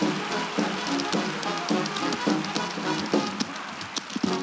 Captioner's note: cheering and applause; rhythmic tapping continues